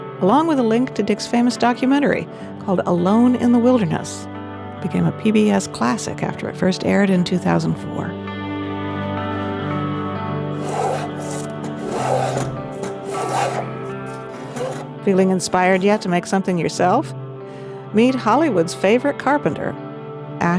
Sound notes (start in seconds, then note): 10.0 inspirational music; 10.5 tool rasping